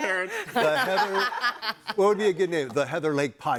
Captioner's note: all laughing